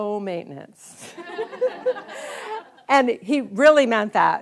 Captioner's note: audience laughs